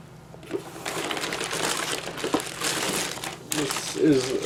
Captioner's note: wrapper noises